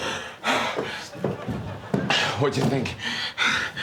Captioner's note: panting